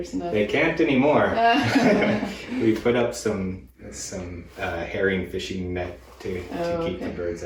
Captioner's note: laughter